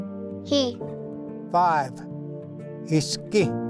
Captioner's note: repeats in Cherokee